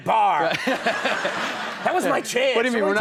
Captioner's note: audience laughs